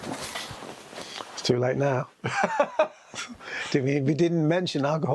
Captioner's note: laughs